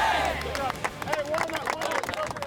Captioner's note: clapping